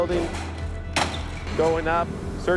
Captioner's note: sound of window obsticles being smashed